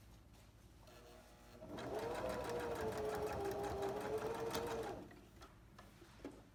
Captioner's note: sewing machine hums